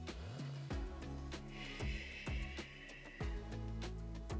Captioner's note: exhales